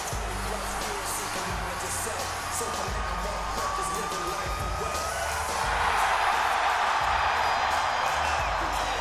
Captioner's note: applause